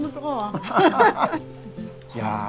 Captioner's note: both laughing